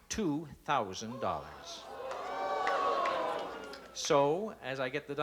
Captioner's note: exclaiming